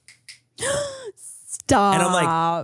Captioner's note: Manny snaps; gasps